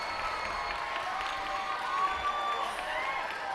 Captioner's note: cheers and applause